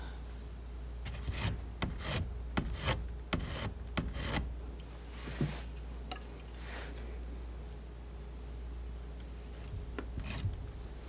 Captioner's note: scratching